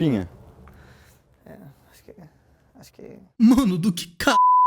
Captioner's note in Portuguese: falando baixinho